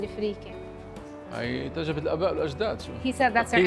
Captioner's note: speaking Arabic